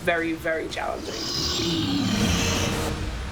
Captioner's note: growling